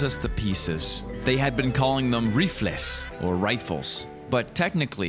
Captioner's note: speaking Spanish